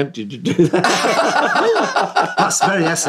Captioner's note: laughing